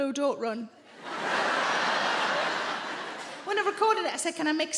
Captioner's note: audience laughing